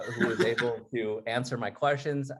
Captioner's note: laughs